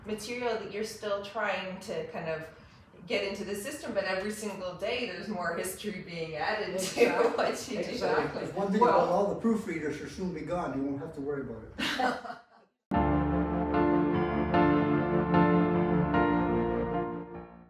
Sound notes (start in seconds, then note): 6.8 laughs; 11.8 laughs; 13.0 gentle music